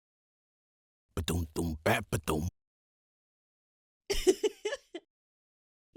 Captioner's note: happy giggle